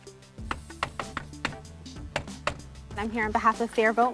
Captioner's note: knocking